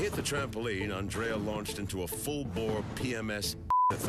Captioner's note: beep